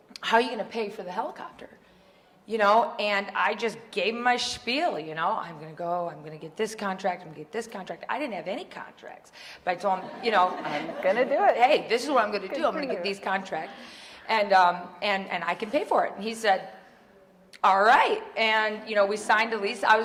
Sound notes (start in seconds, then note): 9.9 audience laughing